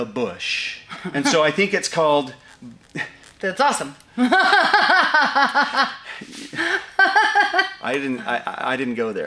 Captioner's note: laughs